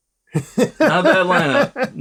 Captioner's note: laughter